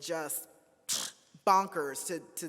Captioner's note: sighs